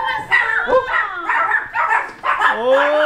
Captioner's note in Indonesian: Anjing menggonggong